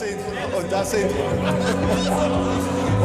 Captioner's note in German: Stimmengewirr